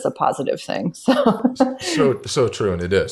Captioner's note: laughs